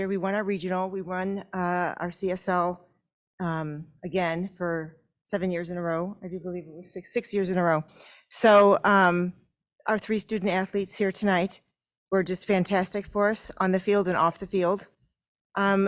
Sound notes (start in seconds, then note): none